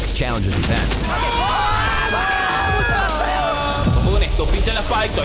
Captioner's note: screaming; intense music